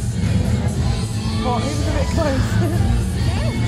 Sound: laughs

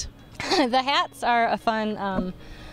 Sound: laughs

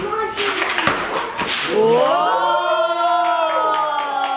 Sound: crowd applauds

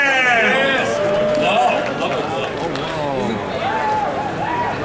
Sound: audience cheering

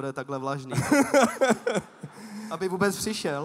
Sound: laughs

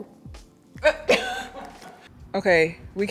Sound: laughing

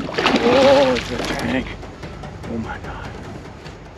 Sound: fish splashing

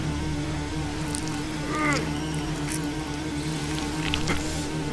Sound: squelching

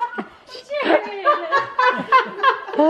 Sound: voiceover

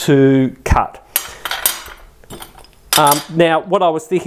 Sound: clattering

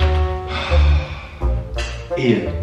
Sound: sighs

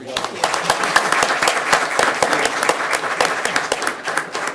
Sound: people clap

